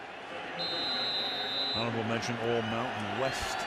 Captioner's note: whistle blows